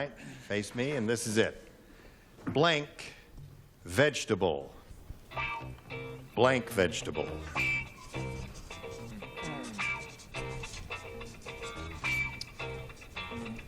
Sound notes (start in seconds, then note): none